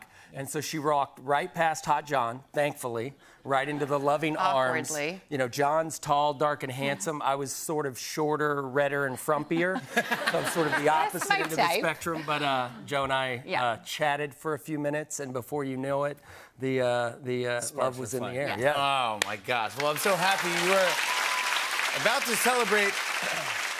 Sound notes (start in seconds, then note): 9.1 laughter; 19.6 applause